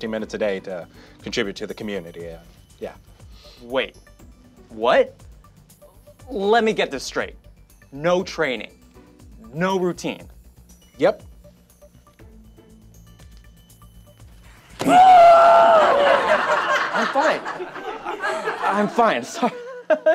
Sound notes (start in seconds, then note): 14.8 shouting; 15.7 audience laughing